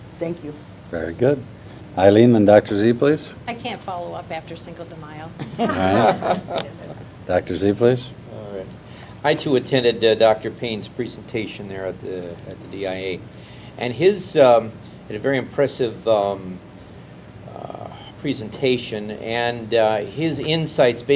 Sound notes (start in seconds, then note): 5.4 laughter